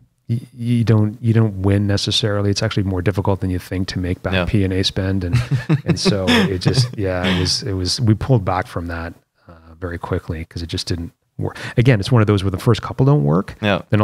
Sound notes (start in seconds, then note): 5.3 laughter